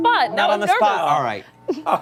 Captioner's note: laughter